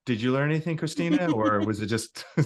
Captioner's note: laughing